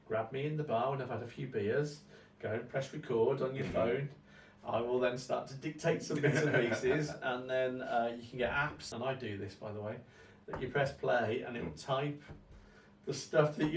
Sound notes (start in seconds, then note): 6.1 laughs